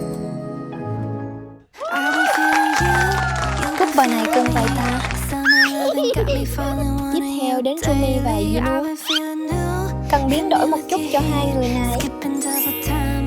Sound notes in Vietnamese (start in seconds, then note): 1.7 hò reo